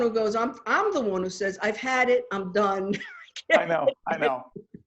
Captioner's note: laughing